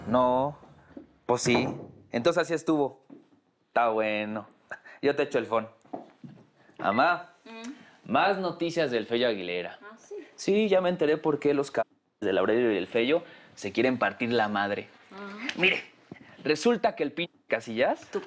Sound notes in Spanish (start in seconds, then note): 6.8 Bip